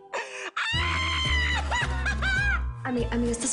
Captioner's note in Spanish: Risas